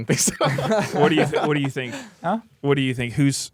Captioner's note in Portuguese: risos